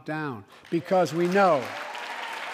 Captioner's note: applause